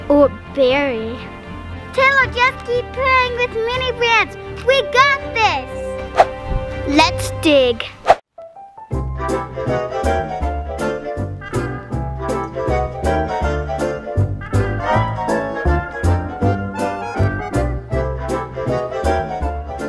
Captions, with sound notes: - Or bury. - Taylor, just keep playing with the Mini Brands. We got this. (air whooshes) - Let's dig. (air whooshes) (quirky music)